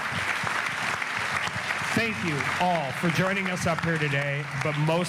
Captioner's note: applause